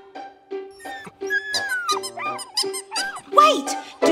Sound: dog whimpering

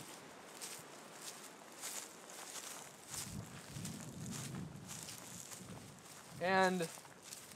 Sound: rustling grass under foot

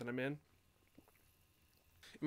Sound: sips nervously

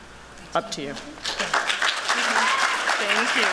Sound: applause

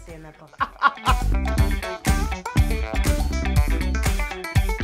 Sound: laughs; upbeat music

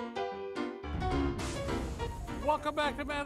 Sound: old-time piano music; fire sizzling

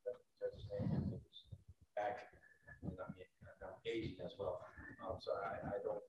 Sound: faintly speaking

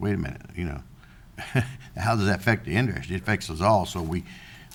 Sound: chuckles

